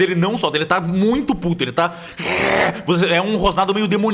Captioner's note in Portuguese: Riuugh